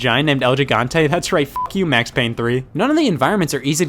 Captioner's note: beep